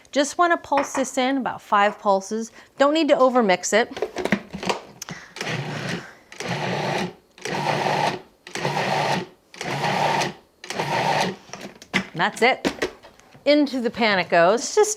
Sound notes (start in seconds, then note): 5.7 food processor whirring